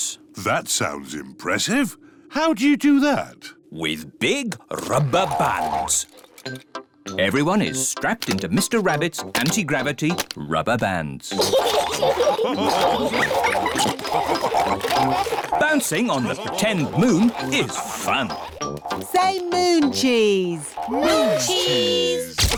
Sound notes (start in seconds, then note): 11.3 all laugh